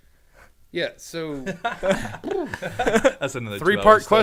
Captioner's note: men laughing